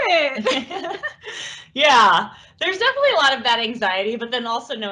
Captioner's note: laughs